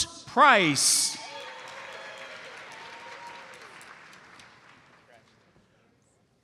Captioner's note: audience applauds